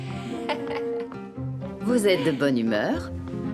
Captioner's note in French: Sophie rit